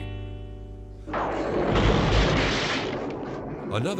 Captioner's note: thunder rumbling